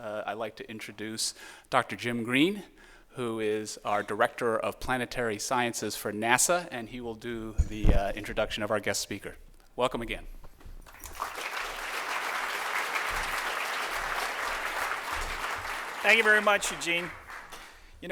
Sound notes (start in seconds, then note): 10.8 applause